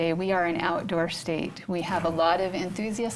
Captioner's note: none